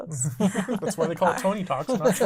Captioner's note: laughing